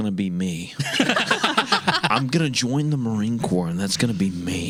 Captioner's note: laughing